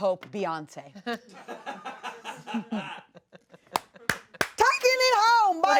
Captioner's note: laugh